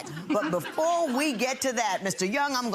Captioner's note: crowd laughing